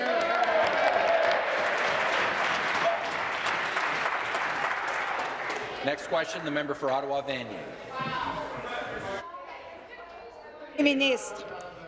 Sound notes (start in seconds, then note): 3.6 applause